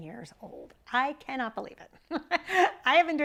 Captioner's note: laughs